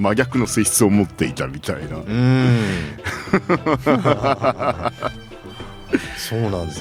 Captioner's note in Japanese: 笑い